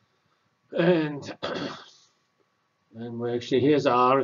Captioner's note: cough